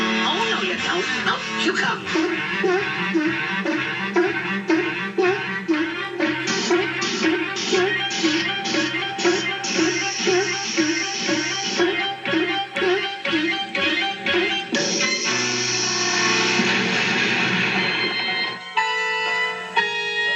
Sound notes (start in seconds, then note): 9.7 sizzle; 16.6 boom